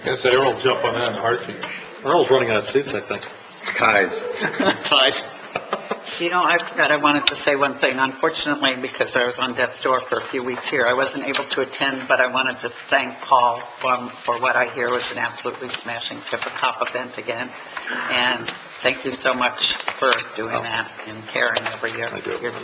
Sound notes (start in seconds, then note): 5.6 laughs